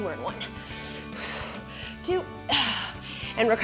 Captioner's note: exhales